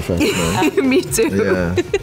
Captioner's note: laughing